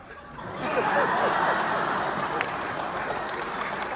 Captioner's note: laughing